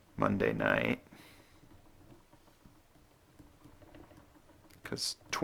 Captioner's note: writing